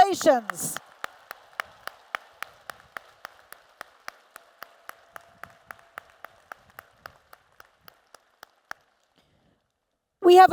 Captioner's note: applause